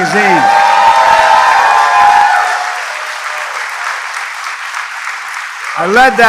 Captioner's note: applause